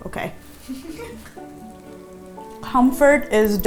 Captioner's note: laughing